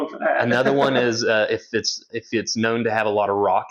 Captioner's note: laughs